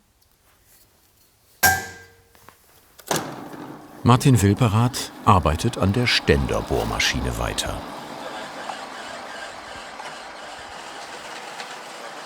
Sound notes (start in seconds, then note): 1.6 one hammering